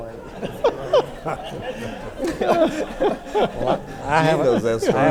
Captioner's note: everyone laughs